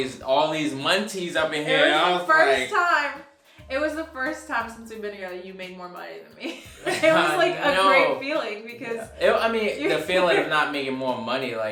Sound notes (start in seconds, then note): 6.4 chuckling; 6.4 laughing